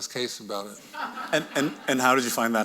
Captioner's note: audience laughing